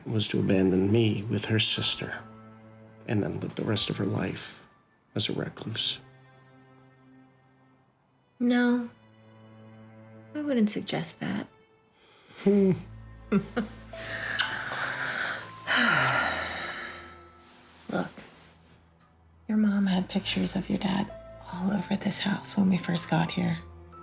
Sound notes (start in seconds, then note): 13.3 chuckles; 16.0 sighs